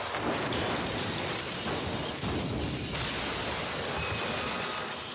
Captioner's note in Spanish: estruendo